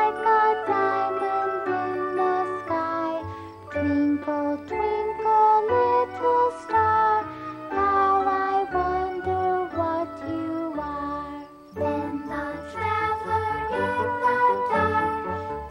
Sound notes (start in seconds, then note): none